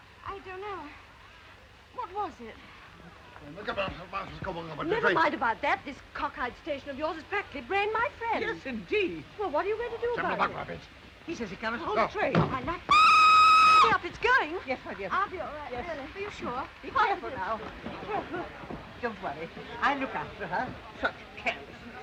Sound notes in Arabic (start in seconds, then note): 10.7 يتحدث بلغة أجنبية; 12.9 صافرة القطار